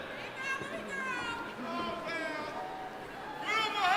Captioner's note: crowd members shouting; man in audience shouting